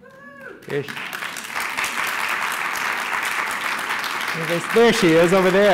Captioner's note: applause